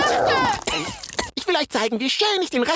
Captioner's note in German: Keuchendes Husten und Fress-Geräusche